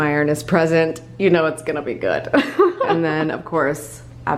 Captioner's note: laughs